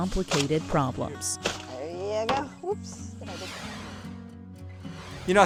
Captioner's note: air whooshes